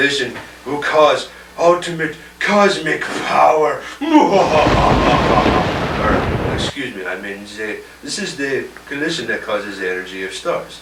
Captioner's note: ominous laugh